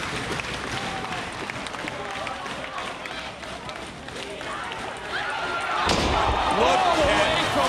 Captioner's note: crowd chatter